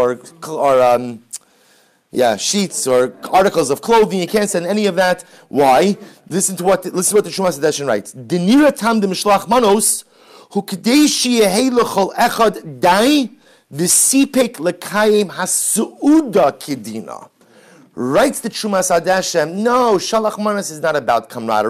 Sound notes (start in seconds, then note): 9.3 Hebrew